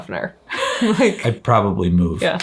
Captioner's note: chuckles